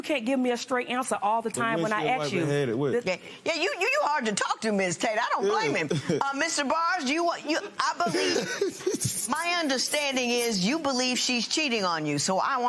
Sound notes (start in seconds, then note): 7.4 laughs